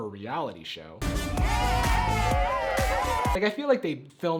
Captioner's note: dance music; all cheering